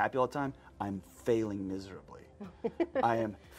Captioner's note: host laughs